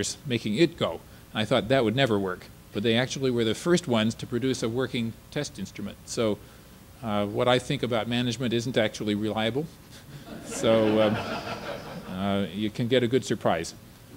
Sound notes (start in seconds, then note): 10.2 audience laughter